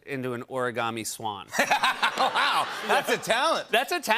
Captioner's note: laughter